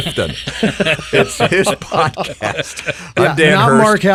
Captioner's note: group laughing